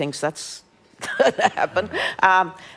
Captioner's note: laughs